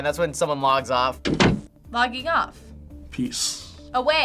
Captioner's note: door closing